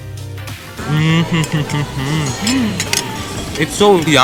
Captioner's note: audible signs of deliciousness